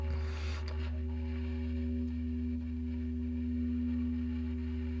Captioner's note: character inhaling softly